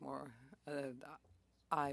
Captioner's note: speaking French